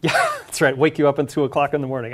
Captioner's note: laugh